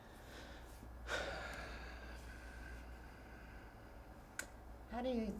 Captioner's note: sighing